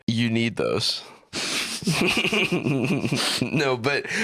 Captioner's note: both laughing